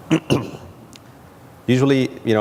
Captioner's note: clears throat